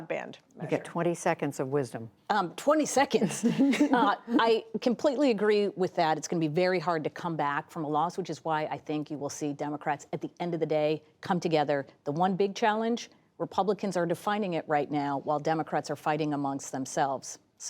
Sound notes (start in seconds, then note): 3.2 laughter